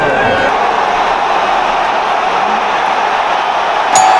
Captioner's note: Sudden roar from the Mexican fans